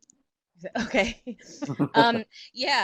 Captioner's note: laughter